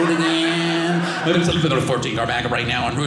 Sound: radio sound

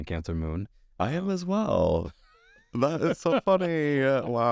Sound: laughs

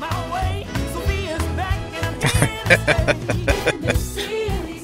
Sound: laughing

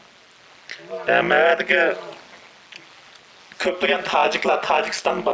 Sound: speaks in foreign language

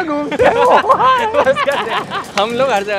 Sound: laughing

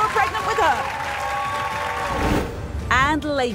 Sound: audience cheers

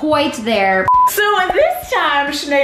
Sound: beeping

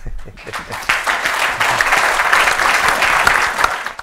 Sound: audience applauding

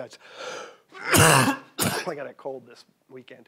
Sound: coughing

